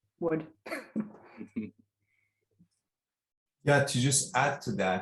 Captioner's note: laughing